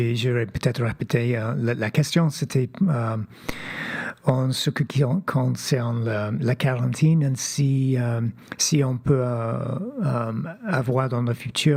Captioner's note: speaking French